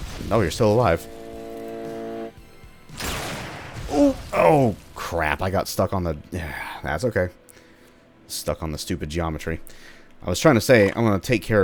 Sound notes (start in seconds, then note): 2.9 bam